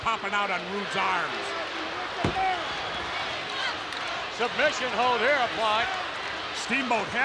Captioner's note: applause